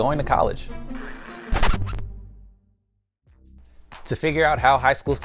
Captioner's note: disk scratch sound effect